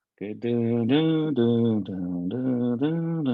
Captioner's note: hums